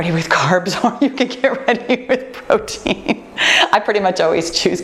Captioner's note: laughs